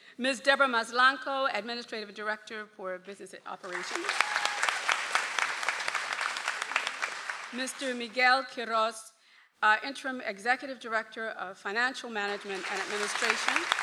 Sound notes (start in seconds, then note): 3.6 audience applauds